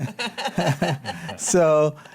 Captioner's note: laughs